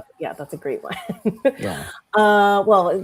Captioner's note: chuckles